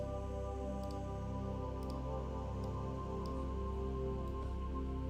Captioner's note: gentle music; mouse clicking